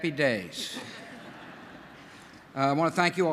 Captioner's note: laughter